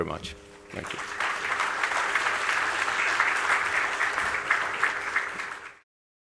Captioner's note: applause